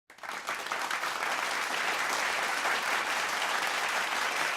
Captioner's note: audience applauding